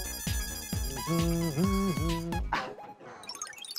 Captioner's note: humming